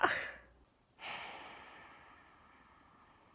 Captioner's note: sigh